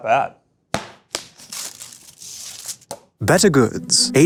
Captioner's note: wrapper tears